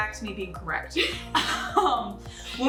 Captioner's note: laughing